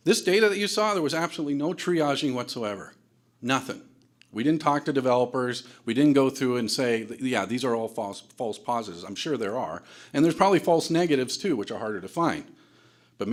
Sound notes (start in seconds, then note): none